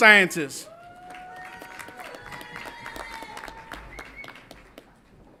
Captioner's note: audience applauds and cheers